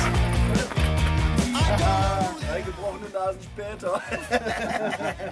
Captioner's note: laughter